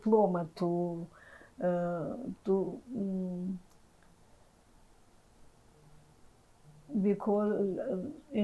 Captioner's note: pauses 6 seconds